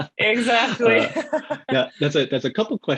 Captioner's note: laughs